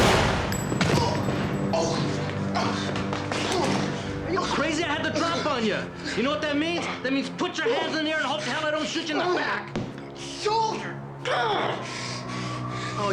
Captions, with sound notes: - (grunting) - Are you crazy? I had the drop on you! You know what that means? That means put your hands in the air and hope to hell I don't shoot you in the back! - Shoulder, ah!